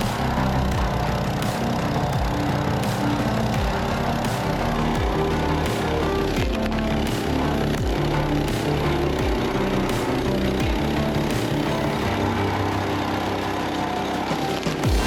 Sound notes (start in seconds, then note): 2.4 splitter rumbling continues; 2.4 upbeat music continues